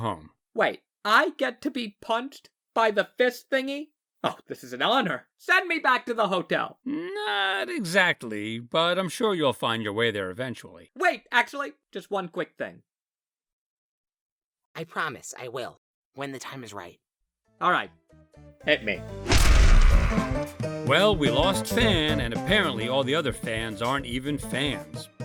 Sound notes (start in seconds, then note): 12.8 no audible dialogue; 19.1 fan screams